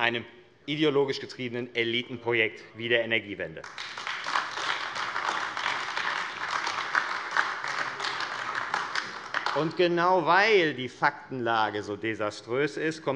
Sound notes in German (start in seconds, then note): 3.6 Beifall AfD